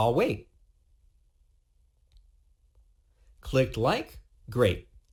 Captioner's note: pause three seconds